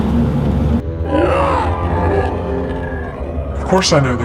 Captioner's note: growling